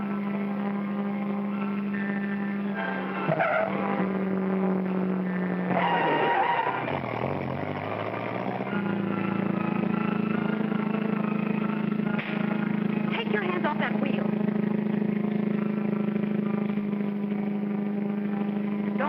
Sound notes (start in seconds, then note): 0.1 car engine racing; 0.1 whimsical music; 2.6 tires squealing; 8.6 car engine racing; 8.6 whimsical music; 12.2 slap; 16.0 car engine racing; 16.0 whimsical music